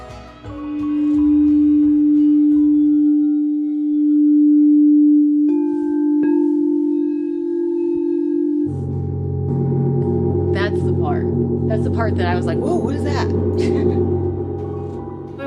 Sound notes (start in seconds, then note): 0.3 relaxing tones; 9.0 soft gong vibrations